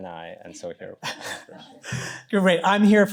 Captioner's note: chuckles